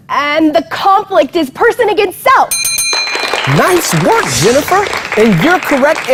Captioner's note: bell sounds; clapping